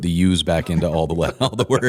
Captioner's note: laughter